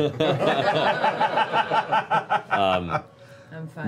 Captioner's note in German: Lachen